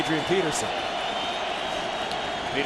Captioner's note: crowd cheering